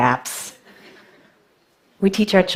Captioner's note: laughter